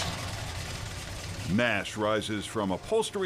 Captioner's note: engine starting